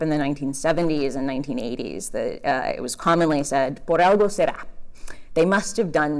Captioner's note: Spanish